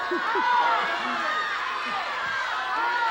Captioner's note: laughter